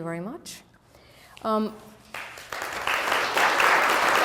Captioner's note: applause